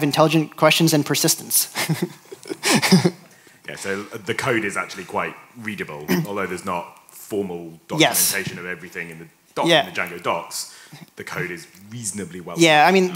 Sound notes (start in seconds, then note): 1.7 laughs